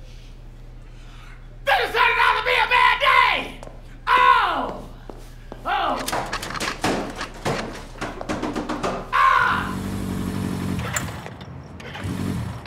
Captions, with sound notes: THIS IS TURNING OUT TO BE A BAD DAY! OH! OH! AAH! [ENGINE STALLS]